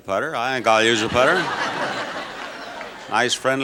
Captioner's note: audience laughs